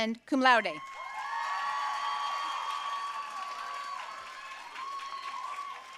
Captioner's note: audience cheering and applauding